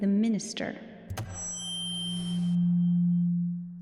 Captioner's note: feedback whining